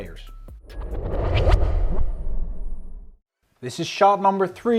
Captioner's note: transition whooshes